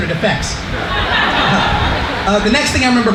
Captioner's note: laughter